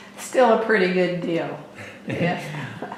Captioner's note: laughter